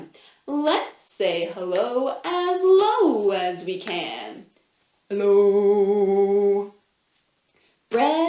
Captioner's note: low-pitched